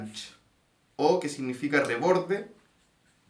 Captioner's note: in spanish